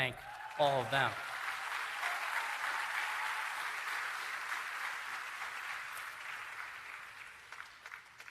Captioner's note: applause